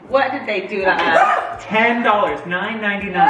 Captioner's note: shrieks